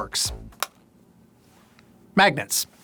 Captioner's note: charger clicks